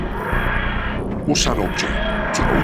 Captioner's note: TARDIS Noises